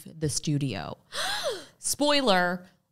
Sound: gasping

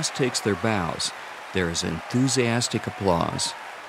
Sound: applause

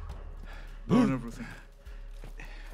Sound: gasp

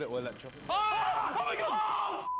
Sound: buzzing; screams

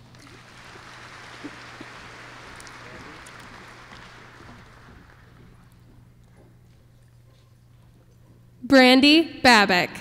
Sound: applause

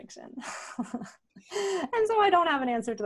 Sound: laughs

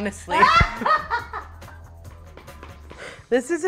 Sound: laughing

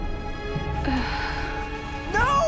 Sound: sighing

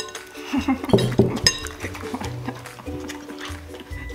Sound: chuckles

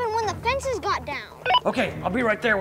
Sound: walkie-talkie beeps

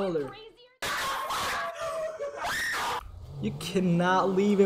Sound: screaming WTF

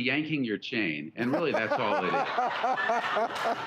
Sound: laughs

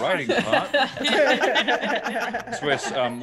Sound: laugh

